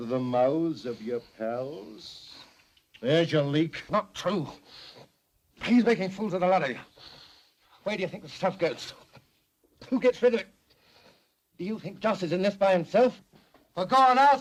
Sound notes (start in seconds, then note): none